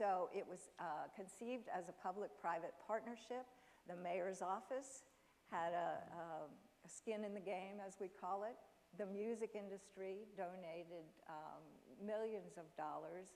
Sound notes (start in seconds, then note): none